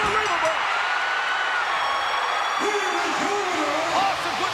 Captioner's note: crowd cheering